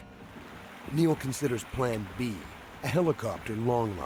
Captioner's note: voiceover